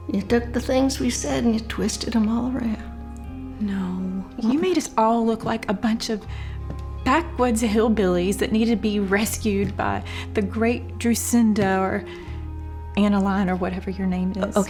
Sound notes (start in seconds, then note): none